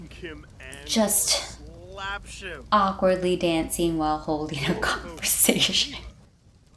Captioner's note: laugh